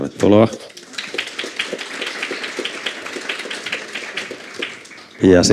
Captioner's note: Aplodeja